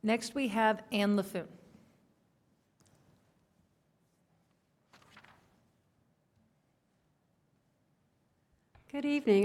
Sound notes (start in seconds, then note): 1.9 quiet room